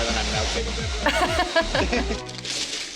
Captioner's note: laughing